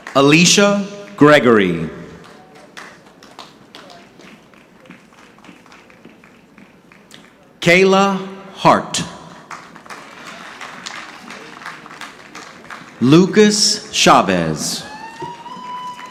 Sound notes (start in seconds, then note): 3.6 audience clapping; 9.3 audience clapping